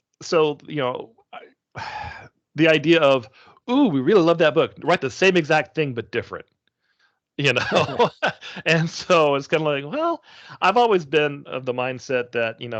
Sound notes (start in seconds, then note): 7.5 chuckling